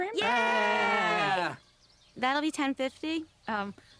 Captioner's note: kids cheering